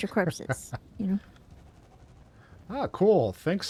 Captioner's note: laughs